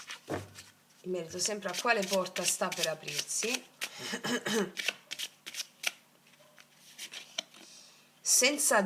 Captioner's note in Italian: schiarire la voce